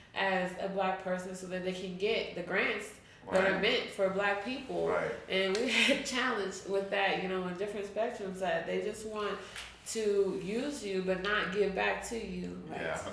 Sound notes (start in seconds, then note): 5.9 chuckles